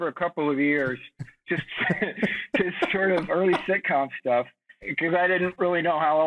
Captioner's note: chuckling; laughs